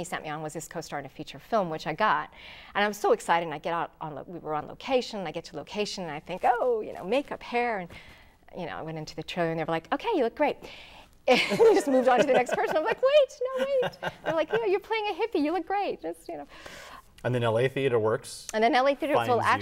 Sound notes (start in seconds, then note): 11.4 laughing